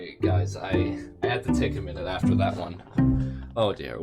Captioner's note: sighs